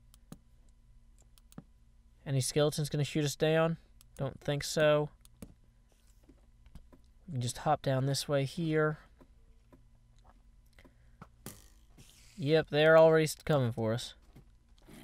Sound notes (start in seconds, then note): 9.5 arrow thunk, spider hiss